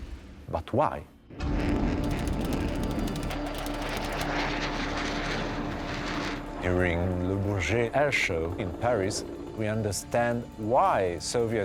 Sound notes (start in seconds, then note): 1.3 dramatic music continues; 2.1 jet engine roars